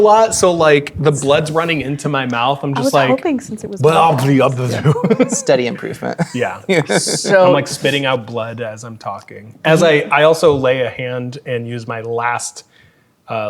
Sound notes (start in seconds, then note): 2.6 babbles incoherently as character